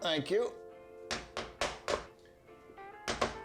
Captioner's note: hammering